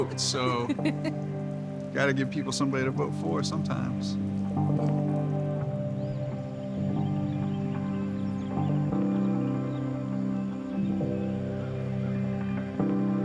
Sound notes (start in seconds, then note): 4.7 dramatic music; 7.0 birds chirping